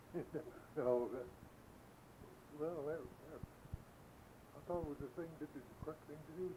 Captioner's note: chuckles